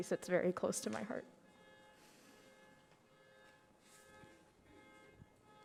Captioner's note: car alarm blaring